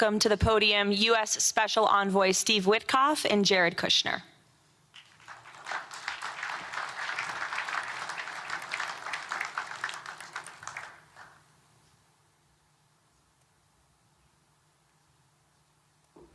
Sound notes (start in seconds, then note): 4.9 applause